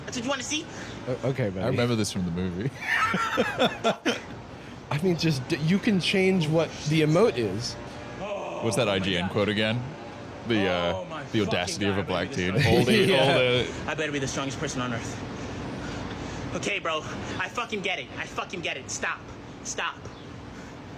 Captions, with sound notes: - That's what you wanna see? - OK, buddy. I remember this from the movie. (laughs) I mean, you can change what the emote is. - (groans) Oh my God. - What's that IGN quote, again? - "The audacity of a Black teen"? - Oh my fucking God. I better be the strongest person on Earth. OK, bro. I fucking get it. I fucking get it. Stop. Stop.